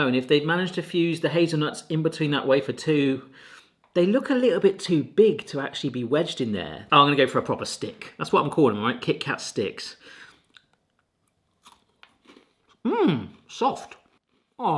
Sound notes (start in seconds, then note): 11.5 Kit Kat crunching